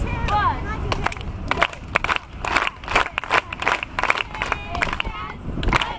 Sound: clapping

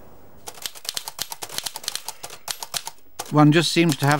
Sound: typing rapidly

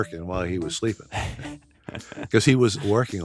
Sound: speakers laugh

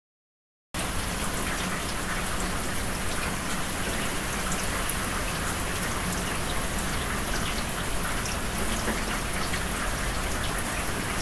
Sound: rainfall sound

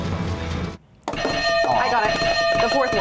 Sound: bell rings

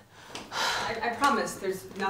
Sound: sigh

